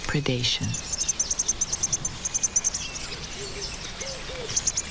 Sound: chicks chirping

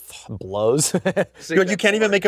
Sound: laughs

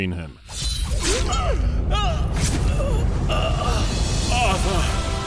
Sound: Uther gasps in pain

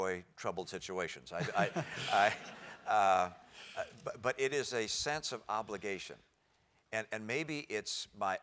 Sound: laugh

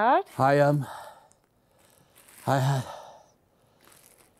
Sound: breathing heavily

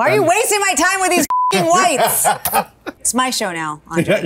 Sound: beep noise

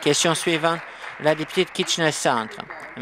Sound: applause

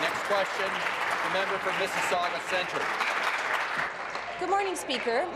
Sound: applause

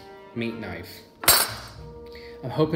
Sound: metal clanks

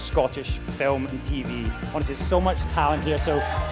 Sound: audience cheers

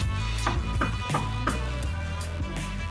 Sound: knocking

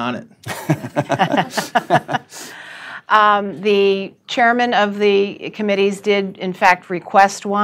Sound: laughter

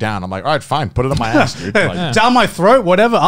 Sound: laughing

